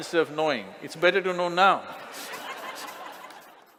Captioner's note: Smích